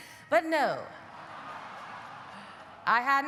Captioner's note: audience laughing